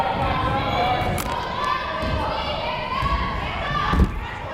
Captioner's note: players shouting